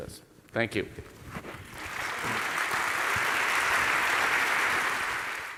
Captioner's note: applause